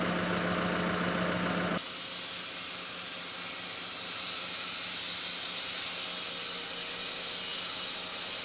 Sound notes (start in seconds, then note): 0.0 engine idling; 4.9 machine sawing